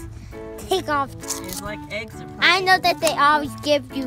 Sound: voiceover

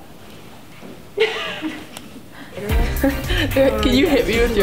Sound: giggling

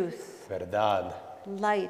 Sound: speaking in Spanish

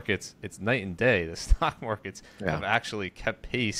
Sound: chuckles

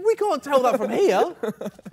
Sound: laughs

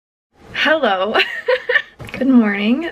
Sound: laughs

